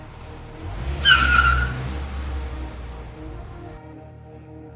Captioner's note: tires squeal